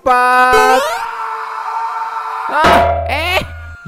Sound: shouting

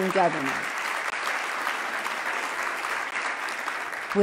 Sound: loud clapping

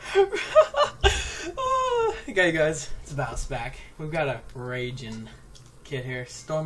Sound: laugh

